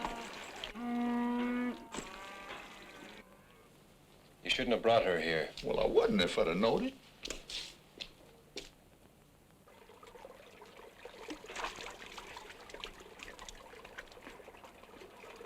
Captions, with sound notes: You shouldn't have brought her here. - Well, I wouldn't if I'd have knowed it. (water splashing)